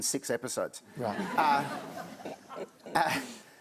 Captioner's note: laughter